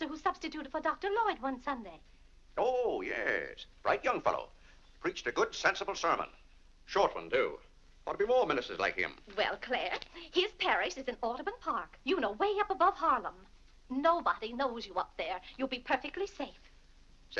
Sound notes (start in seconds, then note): none